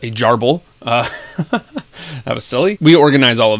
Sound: chuckles

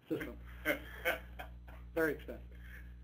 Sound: participant chuckling

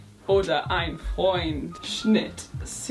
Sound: speaking in foreign language

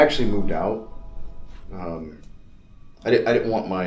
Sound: none

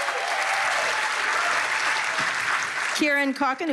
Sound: cheers and applause

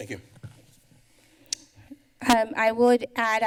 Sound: tongue clicking

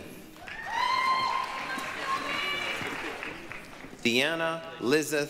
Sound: applause, cheering

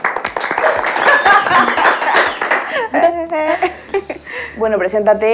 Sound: several applause

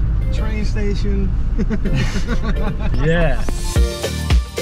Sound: laugh; upbeat music

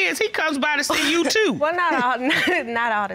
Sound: chuckles

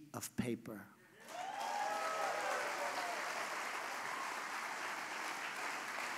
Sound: applause

